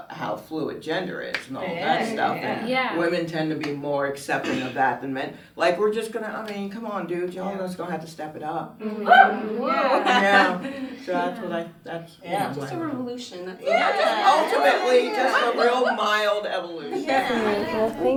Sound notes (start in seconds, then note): 9.0 laughs; 9.0 audience cheers